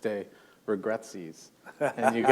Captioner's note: chuckle